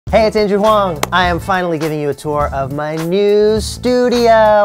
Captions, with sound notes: Hey it's Andrew Huang! *clap* I am finally giving you a tour of my new studio!